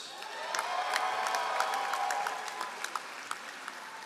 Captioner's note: all applauding